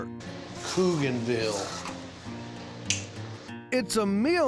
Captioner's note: clicks teeth